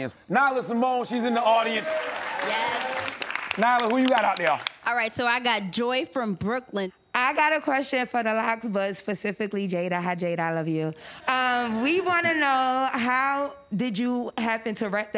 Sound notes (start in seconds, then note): 1.0 audience clapping